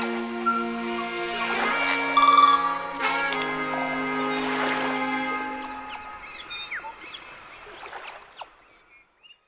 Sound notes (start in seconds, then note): 0.0 soft jazz music; 6.0 birds singing and waves crashing